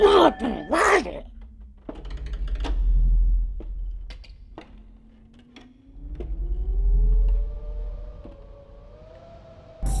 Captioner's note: footsteps; howling wind; rattling sound